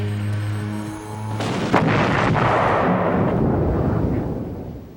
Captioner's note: explosion booms